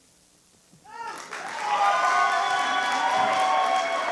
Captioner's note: applause